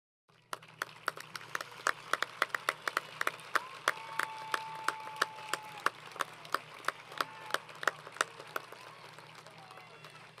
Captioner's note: applause